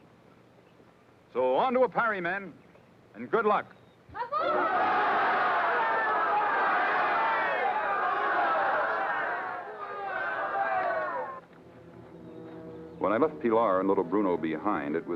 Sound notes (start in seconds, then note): 4.2 troops shouting